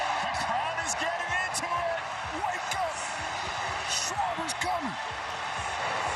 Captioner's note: cheering